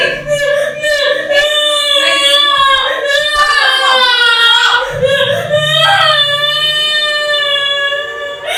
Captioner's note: screaming